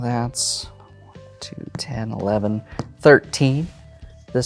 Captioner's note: taps table while counting